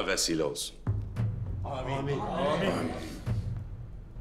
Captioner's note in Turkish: Hepsi bir ağızdan